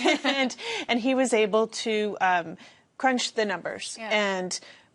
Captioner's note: laughter